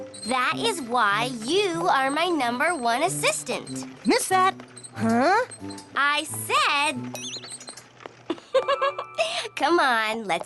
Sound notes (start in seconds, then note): 7.1 poink!; 8.2 chuckles